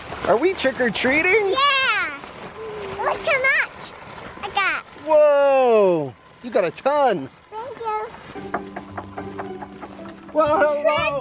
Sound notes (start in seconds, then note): 8.4 knocking on the door